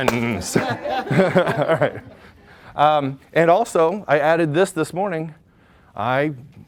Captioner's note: laughs